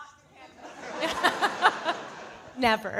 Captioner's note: audience laughing